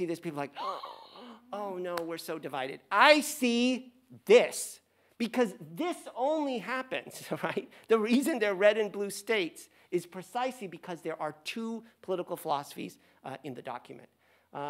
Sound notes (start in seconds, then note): 0.6 gasps; 6.5 laughs